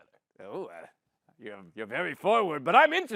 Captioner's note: gruffly